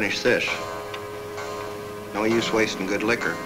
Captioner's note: clock chimes